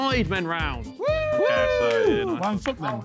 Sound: men cheering

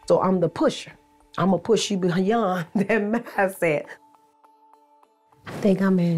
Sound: chuckles

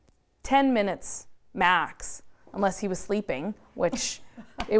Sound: laughs

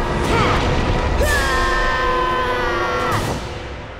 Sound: screaming

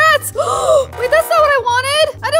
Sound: gasps

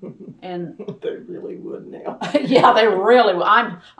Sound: laughter

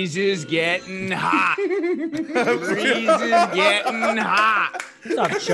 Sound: laugh

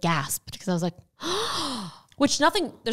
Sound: gasping

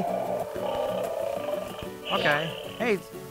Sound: toy dinosaur growling

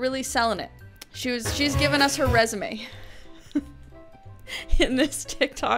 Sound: laughs

